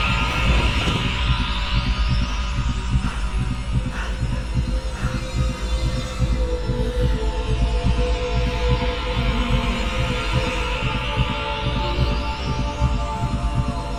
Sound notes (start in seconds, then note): 3.0 panting